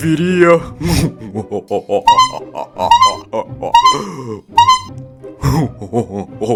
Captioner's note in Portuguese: Risadas acompanhadas de buzinas; Risadas sem buzina